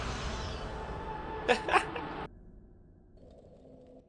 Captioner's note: laugh of insanity